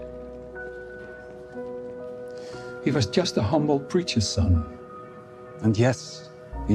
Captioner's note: inhales sharply